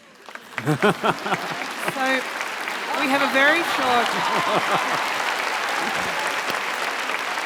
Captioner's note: applause